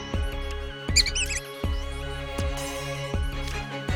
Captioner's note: squeaks